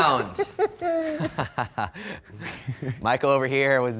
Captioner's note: laughing